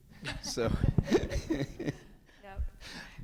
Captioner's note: people laughing; laughs